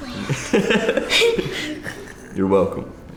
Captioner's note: laughter